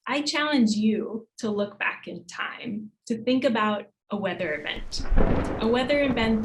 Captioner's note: thunder